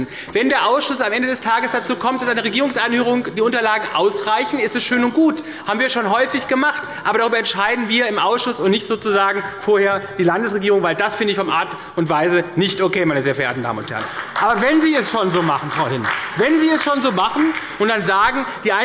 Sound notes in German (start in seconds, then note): 13.6 Beifall bei Abgeordneten der SPD